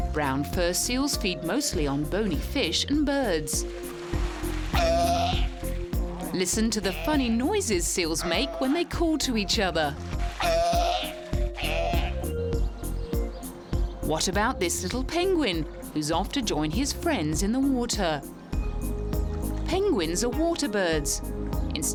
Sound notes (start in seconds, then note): 4.6 seals screaming; 10.8 soft music